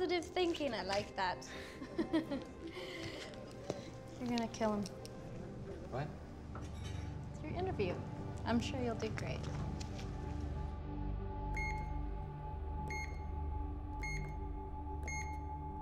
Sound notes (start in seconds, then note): 11.5 beeping